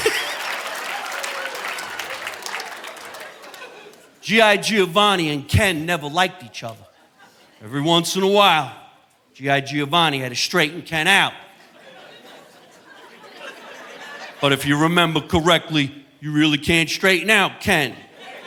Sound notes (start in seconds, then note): 0.0 laughs; 11.4 audience laughing